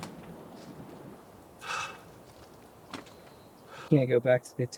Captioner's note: heavy breathing